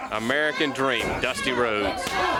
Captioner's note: crowd chatter